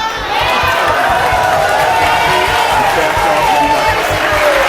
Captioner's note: audience clapping